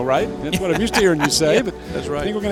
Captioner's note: voiceover